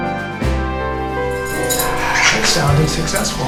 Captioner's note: peeing sounds